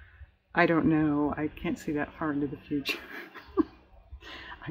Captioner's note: laughs